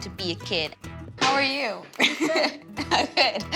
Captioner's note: chuckles